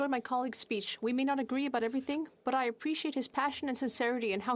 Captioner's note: speaking French